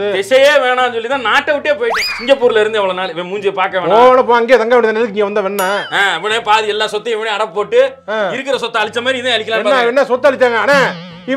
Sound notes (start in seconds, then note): none